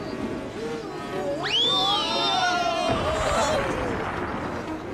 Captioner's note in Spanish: gritan